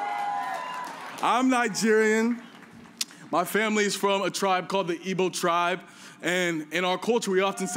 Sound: cheers and applause

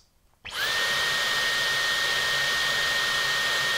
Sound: vacuum screaming

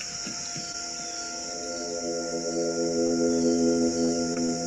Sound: horn sounds

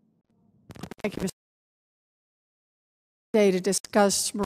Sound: audio cuts out

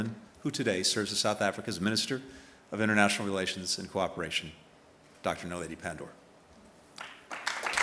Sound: applause

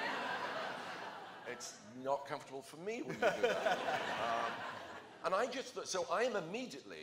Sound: laughter

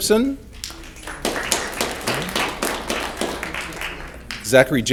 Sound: audience clapping

